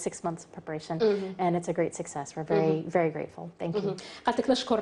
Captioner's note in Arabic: تتحدث الإنجليزية